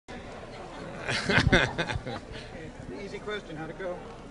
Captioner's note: laughs